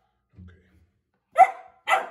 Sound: Berne barking

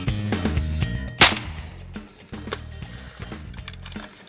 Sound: gun firing

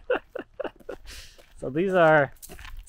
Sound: laughs

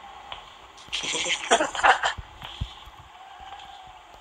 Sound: Granny snickering

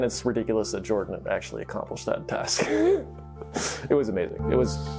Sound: laughs

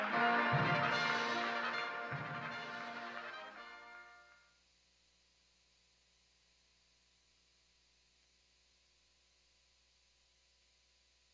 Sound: applause

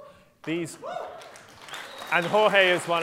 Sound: applause

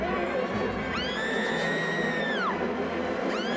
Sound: screaming

